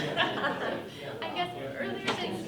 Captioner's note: laughing and chattering